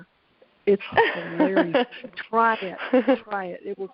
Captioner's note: laughs